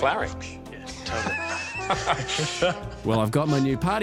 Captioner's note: laughter